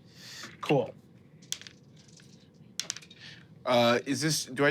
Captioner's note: dice rolling